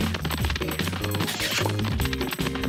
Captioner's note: smooches